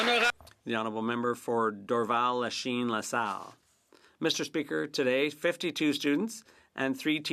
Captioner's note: some Applause